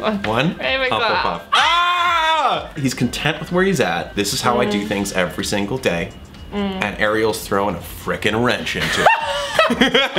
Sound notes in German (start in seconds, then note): 1.5 stöhnen einstimmig; 8.8 lacht